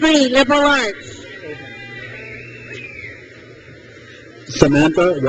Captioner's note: crowd cheers